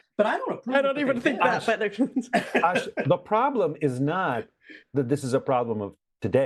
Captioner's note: laugh